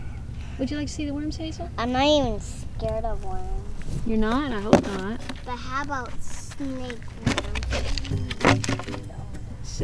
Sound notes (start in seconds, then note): 6.9 lid snaps off; 7.8 fun music starts